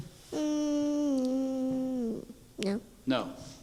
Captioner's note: humming